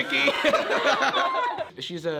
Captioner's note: group laughs